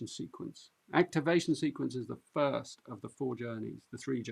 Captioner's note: none